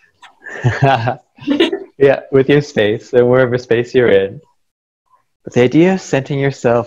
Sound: laughter

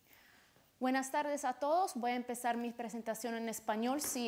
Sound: speaking Spanish

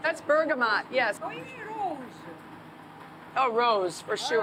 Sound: speaking Greek

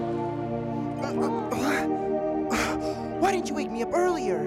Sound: יהוא נאנח

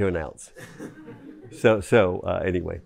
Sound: chuckling

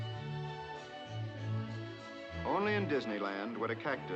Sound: none

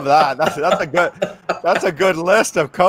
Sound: Tonya laughing

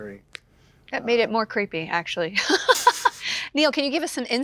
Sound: laughs

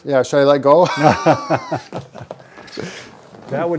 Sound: they laugh

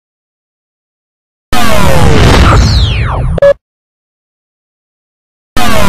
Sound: remastered video game sounds continuing

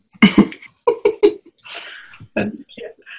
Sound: laughter

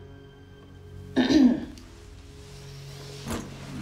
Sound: Jihyun clears her throat

